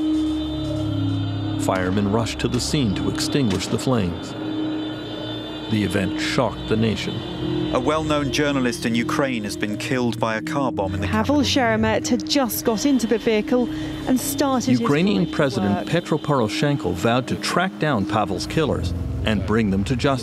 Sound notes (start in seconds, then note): 0.7 sirens